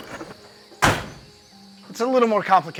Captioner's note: door closes